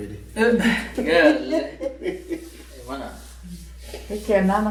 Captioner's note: laughter